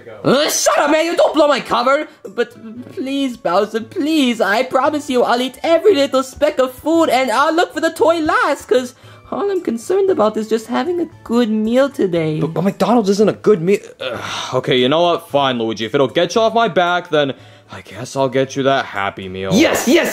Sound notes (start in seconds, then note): 14.0 sighs